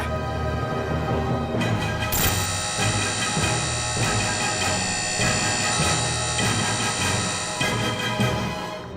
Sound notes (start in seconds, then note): 1.6 dark buzzing